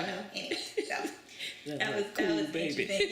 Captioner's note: laughs